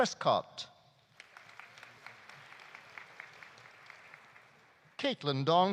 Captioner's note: audience applauding